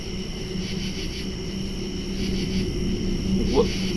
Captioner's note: buzzing sound